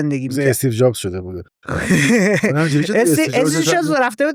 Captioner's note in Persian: خنده